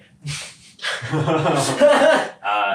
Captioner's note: all laughs